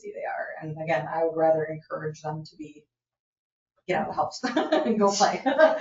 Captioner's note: laughs